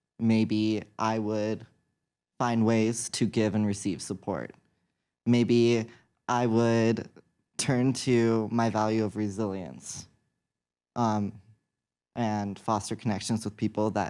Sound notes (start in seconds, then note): none